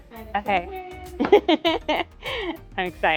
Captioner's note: laughing